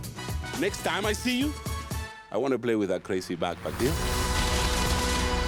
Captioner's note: gunfire